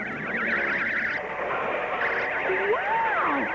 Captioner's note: sirens wailing